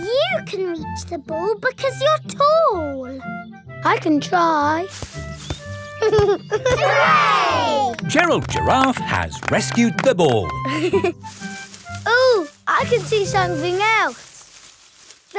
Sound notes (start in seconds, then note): 4.8 leaves rustle; 6.0 giggling; 10.6 leaves rustling